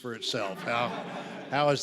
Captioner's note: audience laughs